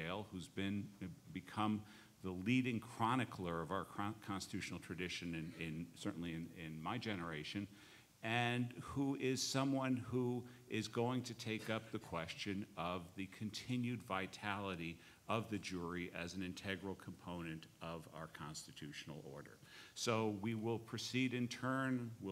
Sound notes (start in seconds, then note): none